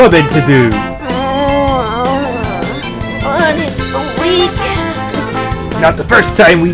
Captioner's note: l groans